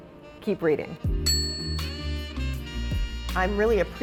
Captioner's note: bell dings